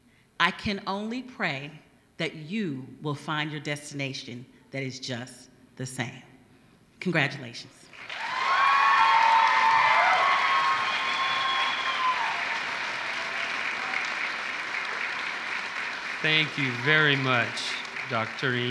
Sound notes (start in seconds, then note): 5.1 applause